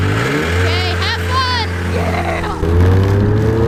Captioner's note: engine revving; snowmobile engine revving